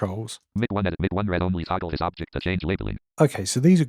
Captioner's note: automated voice